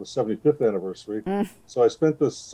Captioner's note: groans sympathetically